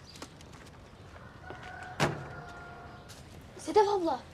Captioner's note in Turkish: Kuş sesleri; Horoz ötüşü sesi